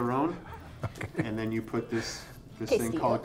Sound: chuckles

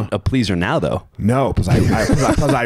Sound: laughing

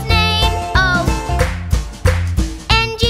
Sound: clap

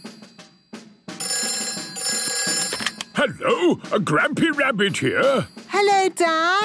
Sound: phone ringing

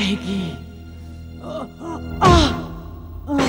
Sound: groans

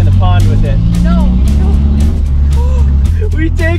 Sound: gasps

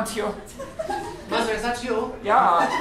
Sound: German accent

